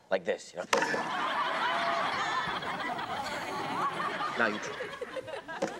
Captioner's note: audience laughs